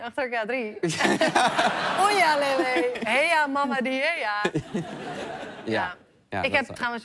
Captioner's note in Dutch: gelach